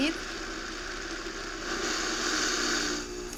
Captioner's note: whirring